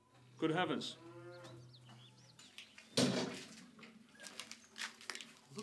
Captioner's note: cow mooing